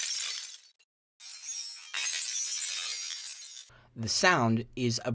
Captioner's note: broken glass shattering; slowed broken glass shattering